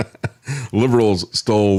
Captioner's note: laughs